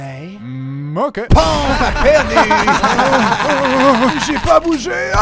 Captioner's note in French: rires